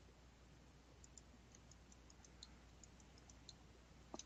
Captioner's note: mouse clicking